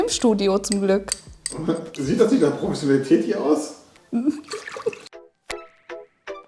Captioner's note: laughing